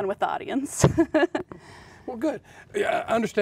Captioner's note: laughing